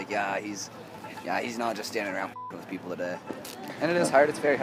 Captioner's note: beep